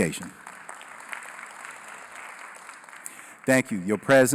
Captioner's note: applause